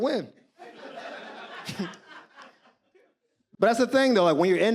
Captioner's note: audience laughs